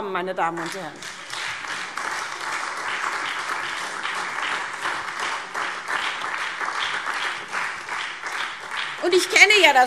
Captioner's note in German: Beifall SPD und DIE LINKE